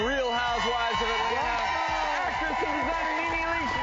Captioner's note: cheering